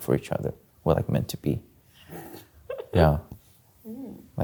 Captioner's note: chuckling